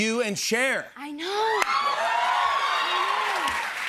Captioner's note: audience cheers